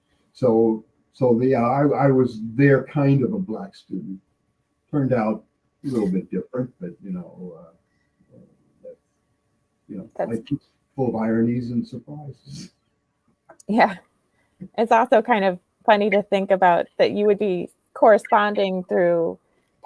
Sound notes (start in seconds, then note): 11.0 laughing